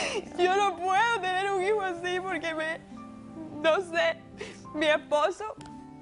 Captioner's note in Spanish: Sollozos